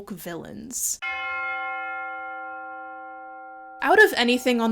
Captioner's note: bell chimes